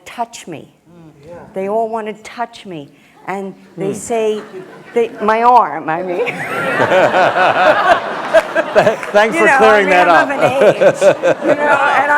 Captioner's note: laughter